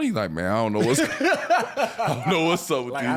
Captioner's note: laughing